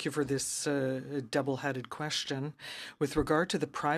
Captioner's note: speaking in french